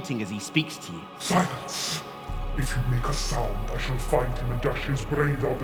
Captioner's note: malevolent voice